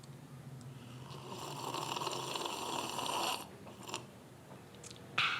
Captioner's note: slurping